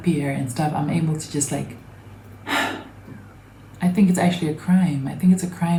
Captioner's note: sighs